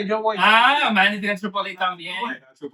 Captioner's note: speaking In Foreign Language